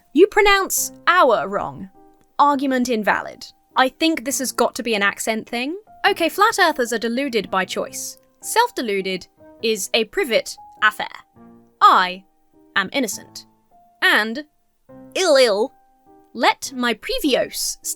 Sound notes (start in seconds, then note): none